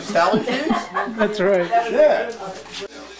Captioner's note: laughing